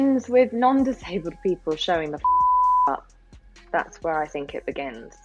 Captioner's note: beep